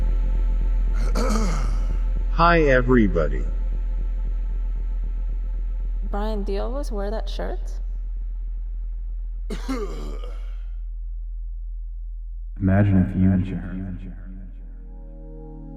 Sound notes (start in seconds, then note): 1.0 clears throat; 9.5 coughs